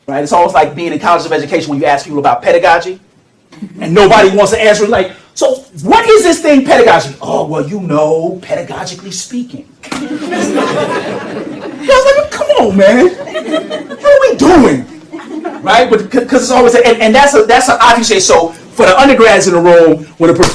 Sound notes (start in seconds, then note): 9.9 laughter